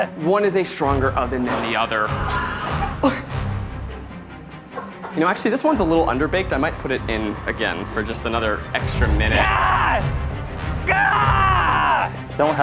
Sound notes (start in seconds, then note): 2.1 primal screaming; 2.2 choking; 10.8 screaming